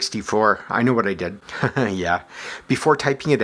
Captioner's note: chuckles